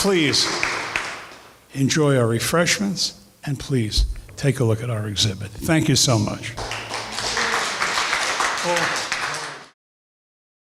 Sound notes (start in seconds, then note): 6.5 applause